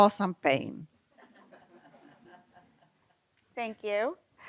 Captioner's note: laughter